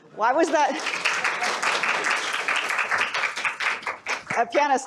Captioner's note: applause